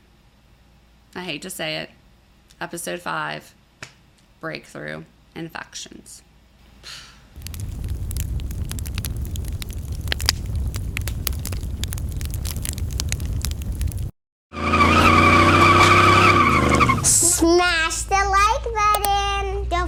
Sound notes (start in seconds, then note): 7.4 crackling; 14.5 engines revving